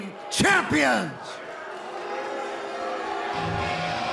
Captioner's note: crowd cheering